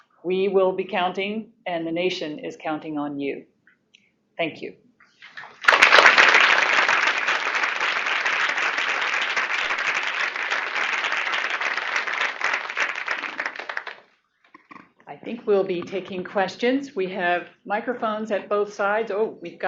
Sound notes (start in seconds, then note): 5.3 applause